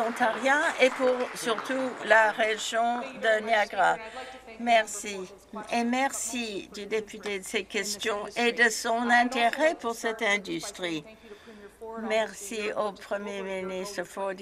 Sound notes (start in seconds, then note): 1.6 some Applause